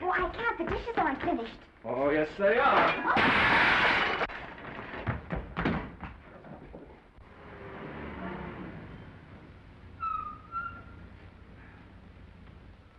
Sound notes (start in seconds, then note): 2.6 plates shattering; 4.2 footsteps receding; 7.1 engine rumbling; 10.0 tires squealing